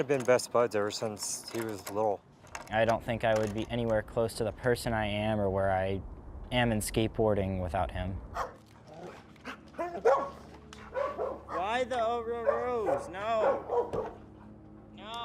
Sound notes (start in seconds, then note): 10.8 dog barking